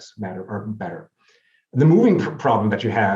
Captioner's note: speaks faintly